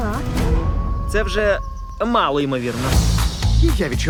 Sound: coyote howling

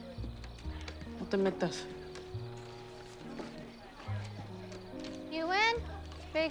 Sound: Lupe speaks in Spanish

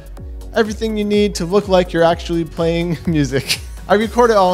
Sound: laughs

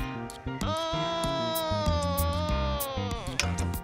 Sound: groaning

